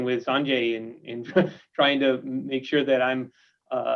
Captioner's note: chuckles